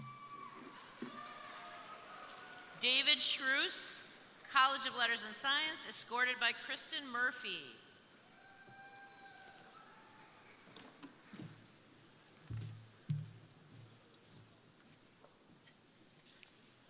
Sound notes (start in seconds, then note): 0.0 crowd applauding; 0.0 crowd cheering; 8.3 crowd cheering